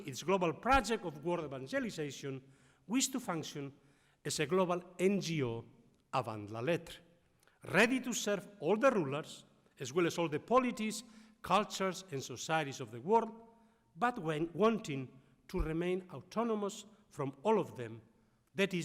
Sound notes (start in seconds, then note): 4.9 speaking foreign language